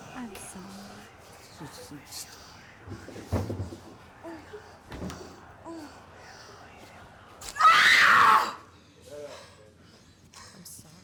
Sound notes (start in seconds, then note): 7.5 Abby screams